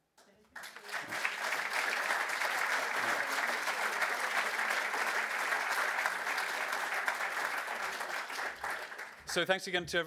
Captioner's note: audience applause